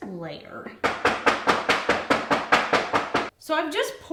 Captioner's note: banging